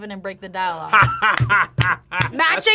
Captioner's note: laughs